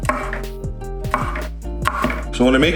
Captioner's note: chopping sounds